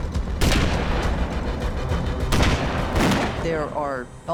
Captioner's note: gunfire